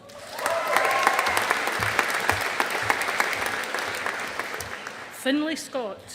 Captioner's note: audience applauding